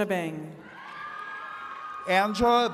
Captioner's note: attendees cheering